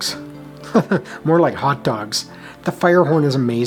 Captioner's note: chuckles